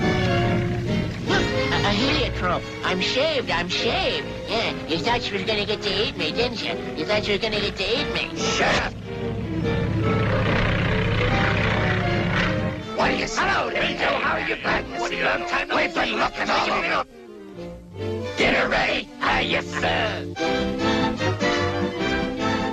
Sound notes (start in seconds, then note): 8.8 engine rumbling; 11.8 vultures conversing; 19.9 lively music